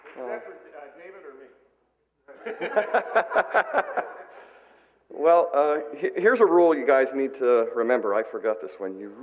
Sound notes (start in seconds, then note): 2.3 laughter